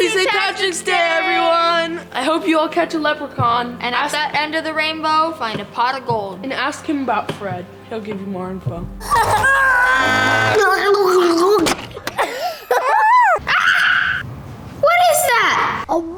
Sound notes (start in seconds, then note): 9.0 kids yelling and laughing; 10.2 boy speaking gibberish; 11.9 girls laughing; 12.7 girl screaming